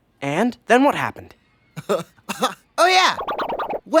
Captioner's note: chuckles to himself